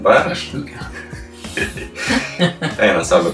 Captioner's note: both laughing in Lithuanian